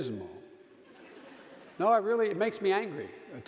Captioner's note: audience laughing